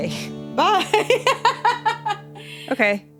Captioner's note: laughs